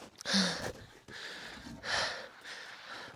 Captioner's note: person breathing